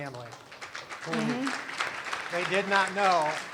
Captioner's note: applause